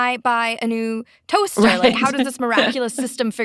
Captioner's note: laughs